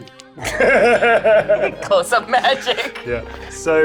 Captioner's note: group laughs